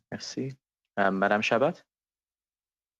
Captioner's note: speaking FRENCH